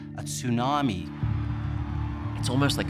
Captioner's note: crowd cheering